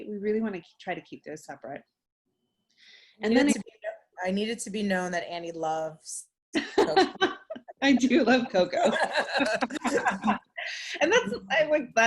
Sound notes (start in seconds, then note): 6.6 laughs; 8.7 both laughing